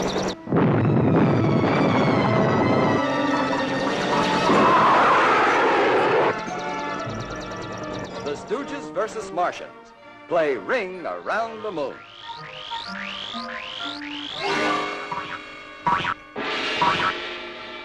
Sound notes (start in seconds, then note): 0.3 firing; 4.7 jets rumbling; 12.0 zapping